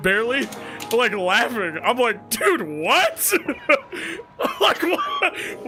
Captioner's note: laughs